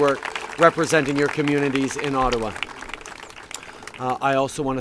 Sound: applause

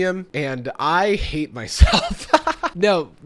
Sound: laughs

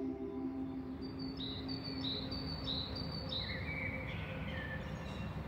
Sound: birds chirping

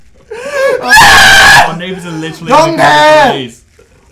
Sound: hyperventilates

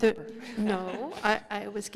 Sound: laughter

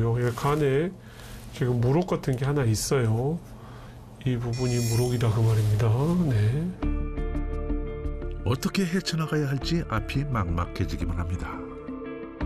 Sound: voiceover

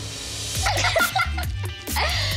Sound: laughter

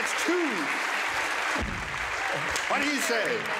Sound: applause

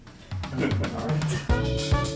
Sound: lively jazz music; laughs

